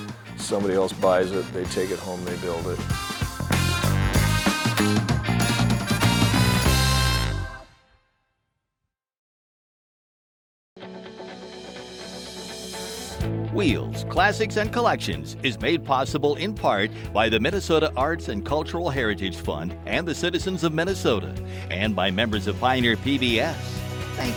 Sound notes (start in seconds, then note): 3.9 upbeat music continues; 10.9 mellow music; 13.5 voiceover